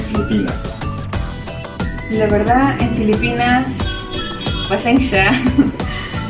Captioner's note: speaks in tagalog, which means 'sorry'